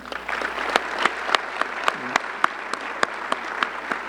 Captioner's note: audience clapping